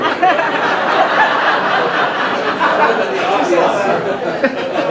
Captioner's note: audience laughing